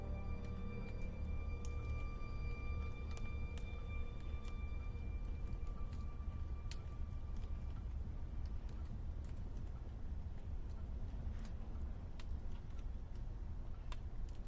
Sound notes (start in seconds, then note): 5.4 crackling wood fire